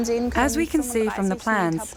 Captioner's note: German spoken audio